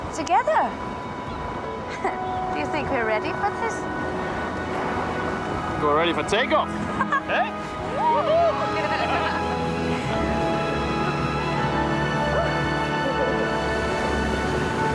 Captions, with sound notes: - Together? (chuckles) Do you think we're ready for this? - We're ready for takeoff. - Hah-hah. - Yeah? Woo-hoo! - Whoo! We're gonna have fun. (dramatic orchestral music)